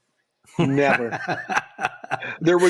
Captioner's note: laughs